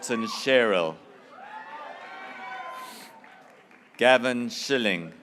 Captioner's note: graduates cheering